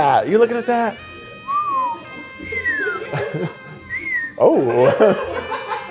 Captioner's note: sensual saxophone music; wolf whistling